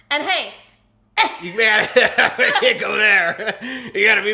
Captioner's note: laughs